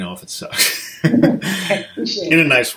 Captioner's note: laughs